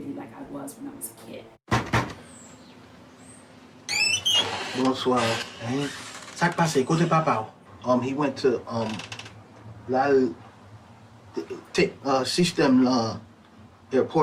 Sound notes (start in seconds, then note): 1.7 door knocking; 5.3 character speaking in Creole; 10.4 struggling in Creole